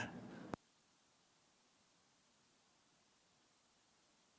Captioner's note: laughs